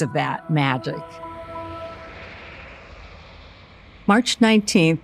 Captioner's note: car engine rumbling